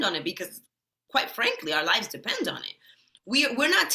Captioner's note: none